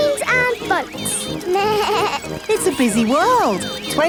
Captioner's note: bleats